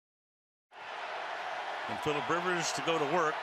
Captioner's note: cheering